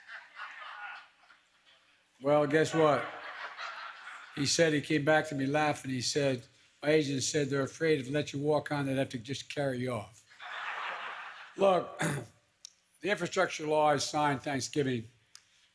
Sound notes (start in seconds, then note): 0.0 laughter; 10.3 laughter